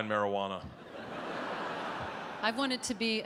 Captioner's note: audience laughs